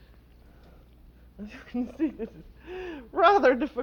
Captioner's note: laughing